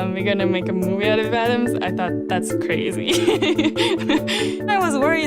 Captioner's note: laughing